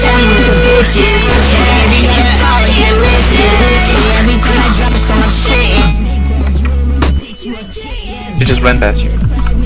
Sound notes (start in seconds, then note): 7.0 footsteps